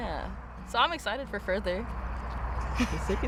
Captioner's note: laughter